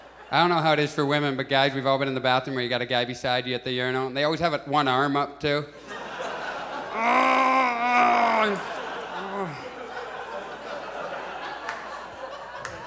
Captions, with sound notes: I don't know how it is for women but guys, we've all been in the bathroom where you got a guy beside you at the urinal, and they always have like one arm up too. [Audience laughs] [Groans loudly] [Audience laughs]